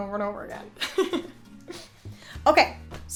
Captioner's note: laughs